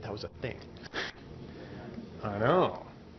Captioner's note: chuckling